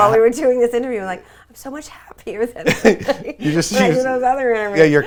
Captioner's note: laughs